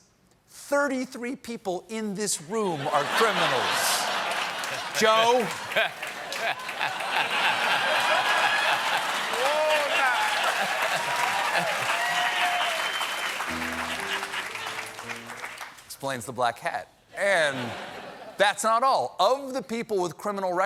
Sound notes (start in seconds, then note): 5.7 laughter; 9.3 piano riff